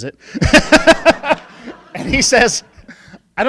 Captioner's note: laughing